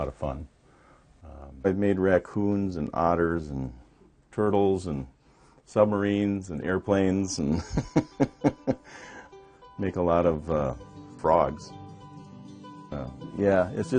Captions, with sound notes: Shorebirds are a lot of fun. I've made raccoons and otters and turtles and submarines and airplanes and (chuckles) make a lot of frogs.